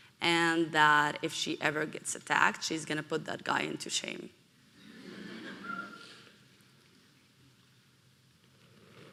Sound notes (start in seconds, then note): 4.8 audience laughing